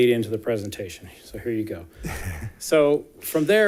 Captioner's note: chuckling